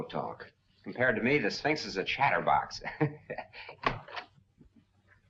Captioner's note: laughs